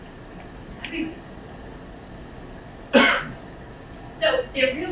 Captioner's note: speaking away from mic